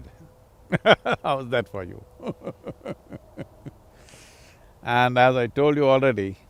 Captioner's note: laughs